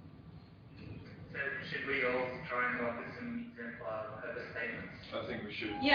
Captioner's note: audio distorts